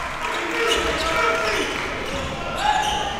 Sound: applause

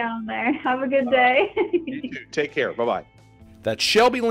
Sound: chuckling

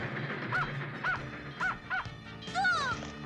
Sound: barking

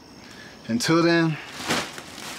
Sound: exhales

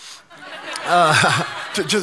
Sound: congregation laughing

